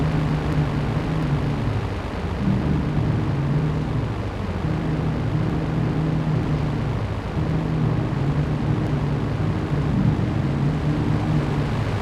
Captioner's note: plane engine roaring